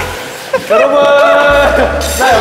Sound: forced laughter

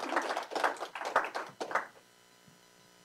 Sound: applause

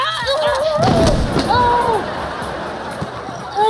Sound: crashing; groaning

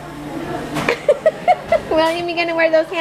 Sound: laughs

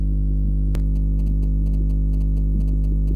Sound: static

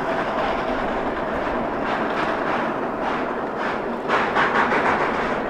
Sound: both locomotives slipping

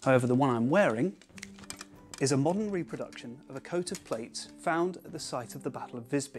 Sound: click

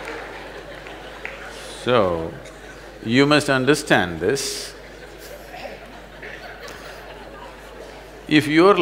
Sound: laughs

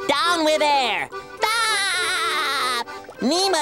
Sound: laughing

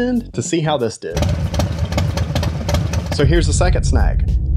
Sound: motorcycle engine roaring

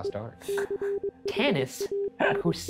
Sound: laughs

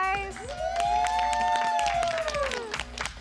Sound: cheering

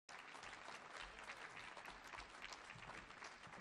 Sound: audience applauding

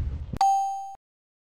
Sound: bell goes ding

